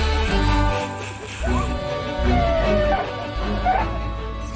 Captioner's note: snickering; siren chirping